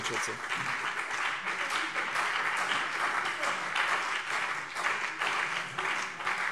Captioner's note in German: Beifall CDU und BÜNDNIS 90/DIE GRÜNEN